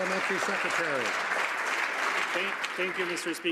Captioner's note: some Applause